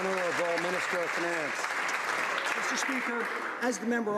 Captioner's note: some Applause